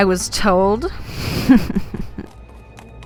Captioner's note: Vyxxen snickers